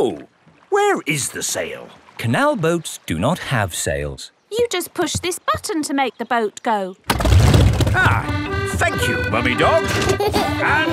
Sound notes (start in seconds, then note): 8.2 boat engine revs; 9.8 kids giggling